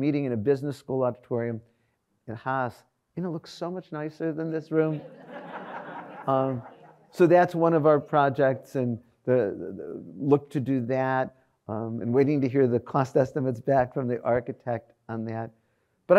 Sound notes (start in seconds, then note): 4.9 audience laughs